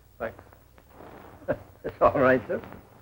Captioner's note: chuckling